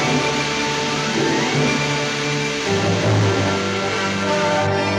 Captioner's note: rocket hissing